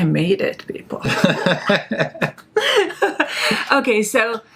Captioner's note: laughing